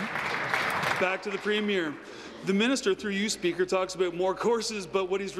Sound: applause

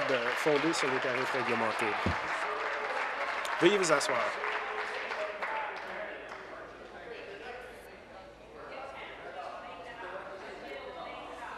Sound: applause

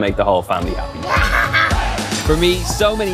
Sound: laughing

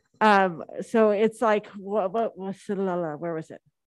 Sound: stammers

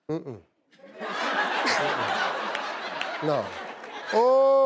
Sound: audience laughing

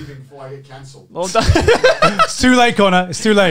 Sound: laughing

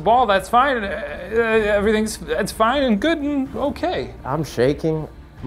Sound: stammering

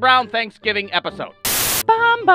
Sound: Static

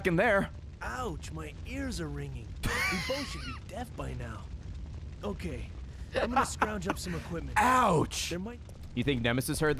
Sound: laughs

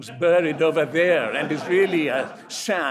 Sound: audience laughs

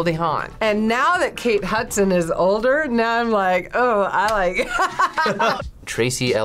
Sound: laughs

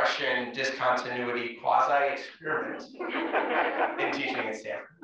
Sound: laugh

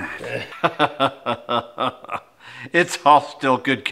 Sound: laughs

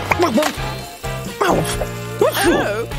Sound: achoo!

